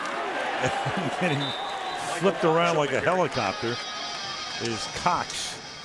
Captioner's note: chuckles